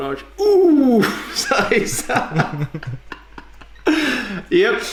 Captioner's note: both laugh